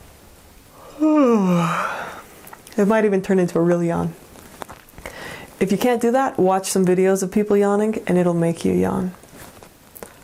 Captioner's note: yawn